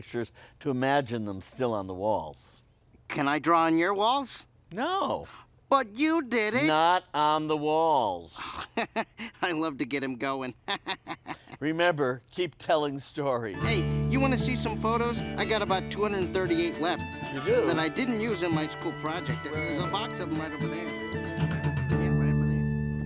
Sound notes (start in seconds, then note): 10.5 chuckling; 10.5 laughing